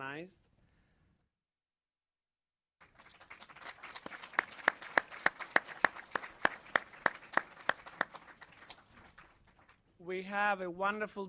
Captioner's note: applause